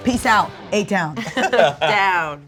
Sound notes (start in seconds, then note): 1.2 laughs